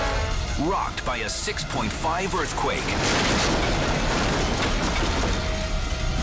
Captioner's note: tiles bang; dramatic music